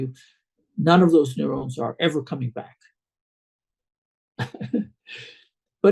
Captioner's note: laughs